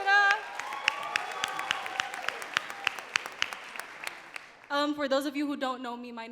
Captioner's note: crowd cheering and clapping